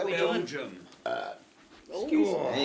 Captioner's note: belches